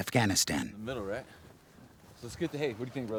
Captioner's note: voiceover